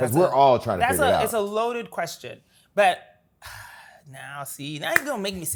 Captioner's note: sighs